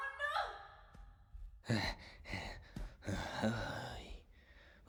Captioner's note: panting